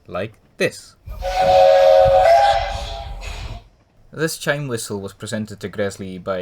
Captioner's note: chime whistle